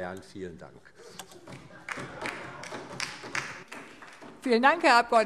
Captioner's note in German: Beifall DIE LINKE